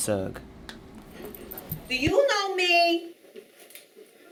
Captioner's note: in New York Accent